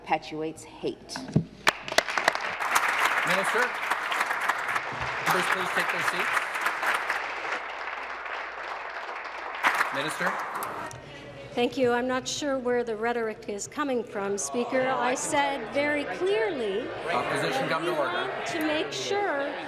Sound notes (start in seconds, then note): 4.3 applause